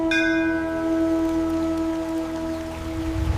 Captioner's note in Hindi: घंटी की आवाज़